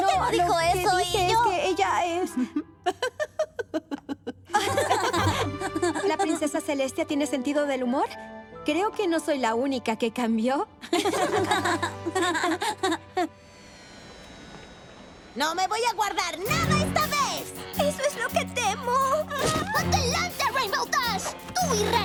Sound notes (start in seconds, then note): 2.3 laughing; 10.8 laughter